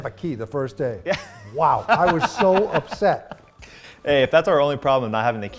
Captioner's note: laughing